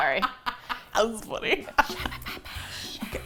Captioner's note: laughs; whispers